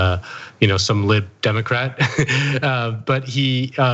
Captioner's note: laugh